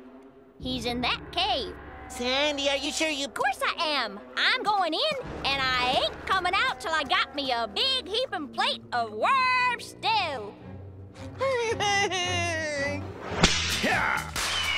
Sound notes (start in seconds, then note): 11.2 whining nervously